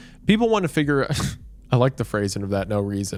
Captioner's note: scoffs